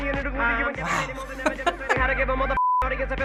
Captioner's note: laughs